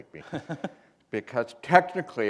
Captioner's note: chuckle